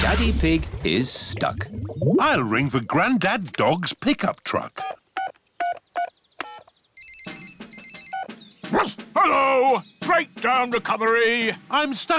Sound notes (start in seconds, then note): 7.0 phone rings; 8.7 barks